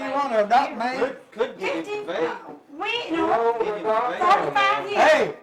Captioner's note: indistinct chatting